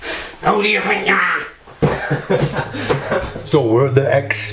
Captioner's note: laughs